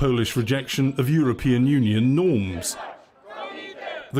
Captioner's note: announcement in polish